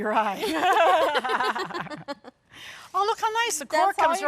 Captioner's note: both laugh